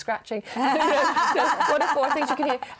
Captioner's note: laughter